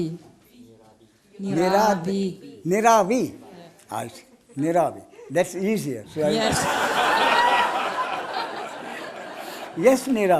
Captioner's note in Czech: smích